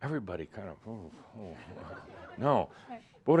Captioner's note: a few chuckles